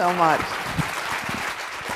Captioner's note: applause